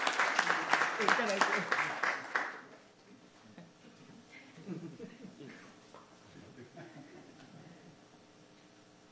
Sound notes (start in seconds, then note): 6.4 audience laughing